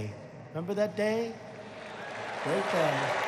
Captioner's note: applause